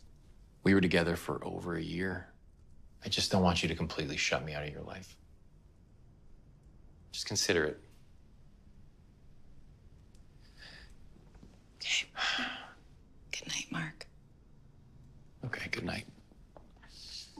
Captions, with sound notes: We were together for over a year. I just don't want you to completely shut me out of your life. Just consider it. Okay. (sighing) Good night, Mark. Okay, goodnight.